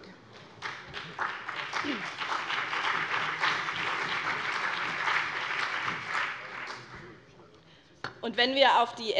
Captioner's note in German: Beifall BÜNDNIS 90/DIE GRÜNEN und vereinzelt CDU